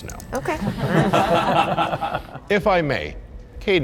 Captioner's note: group laughing